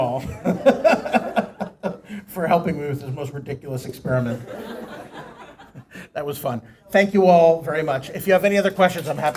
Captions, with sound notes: ALL RIGHT LASERS OFF. THANK YOU ALL [LAUGHTER] FOR HELPING ME WITH THIS MOST RIDICULOUS EXPERIMENT.